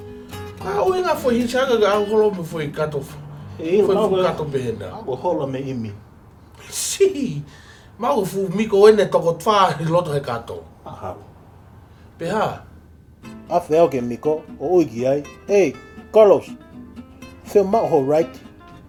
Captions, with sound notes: What the hell was a hitch hiker dragging around a suitcase like that for? I dunno. Maybe he escaped from immigration. (Scoffs) Maybe there's 4 other miko's inside the suitcase. Probably. Then what? So I got closer to the miko and I said "Hey Carlos, do you want a ride?"